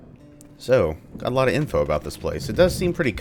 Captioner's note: thunder